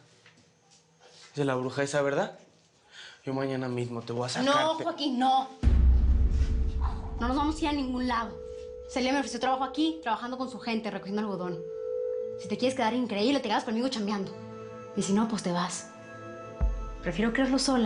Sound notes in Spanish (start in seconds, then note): none